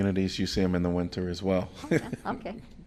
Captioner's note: laughter